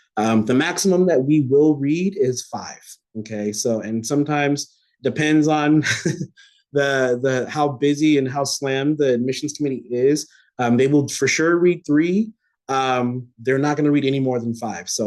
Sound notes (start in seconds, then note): 5.8 laughter